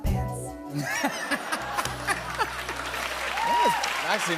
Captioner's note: laughter